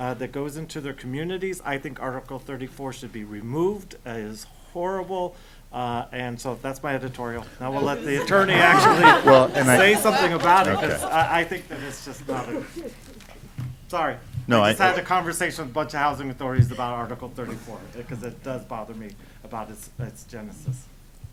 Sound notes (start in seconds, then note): 7.7 laughter